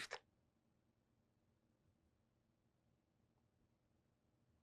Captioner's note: pauses 6 seconds